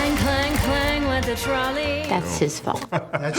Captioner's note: laughter